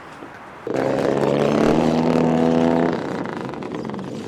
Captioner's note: engines revving